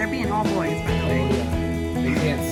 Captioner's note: woman laughs